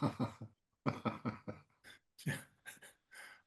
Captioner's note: panel laughs